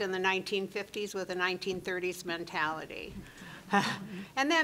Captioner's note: chuckling